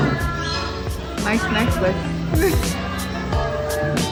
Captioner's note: laugh